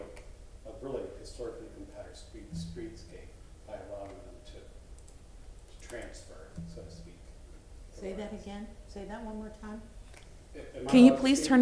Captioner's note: off microphone